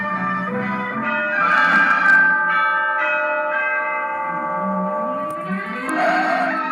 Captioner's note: clock Dinging